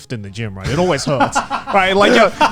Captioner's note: laughs